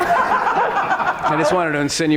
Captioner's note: audience laughing